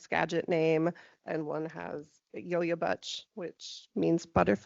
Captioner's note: speaking in foreign language